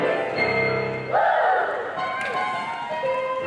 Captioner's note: cheering; upbeat music